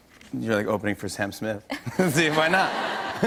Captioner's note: laughter